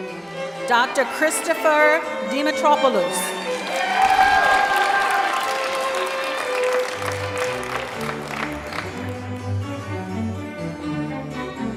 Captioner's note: cheering; applause